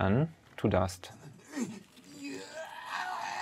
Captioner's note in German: Stöhnen; Schmerzerfüllte Laute, Knacken